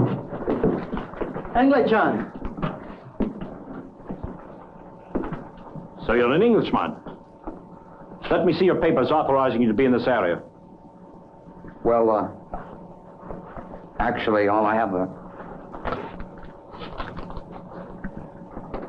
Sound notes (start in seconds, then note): 2.8 exhaling; 15.4 papers rustling